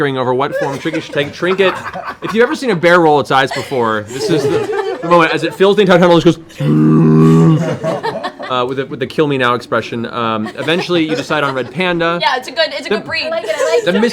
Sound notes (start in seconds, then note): 6.6 bear noises